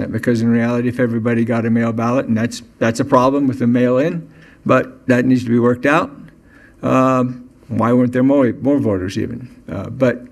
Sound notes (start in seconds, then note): none